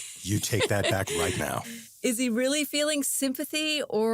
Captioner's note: laughs